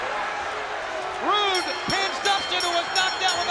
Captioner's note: bell rings